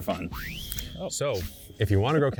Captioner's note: screen whistling